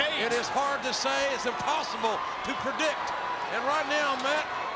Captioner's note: audience cheering